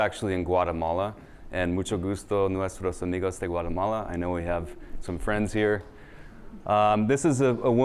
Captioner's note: speaking spanish